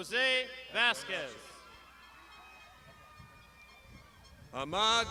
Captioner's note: crowd shouting